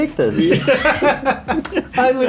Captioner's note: laughing